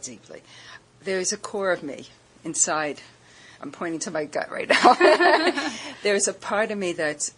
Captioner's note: laughter